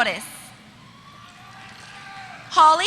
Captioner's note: applause